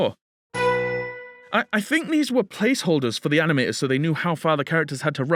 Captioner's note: ding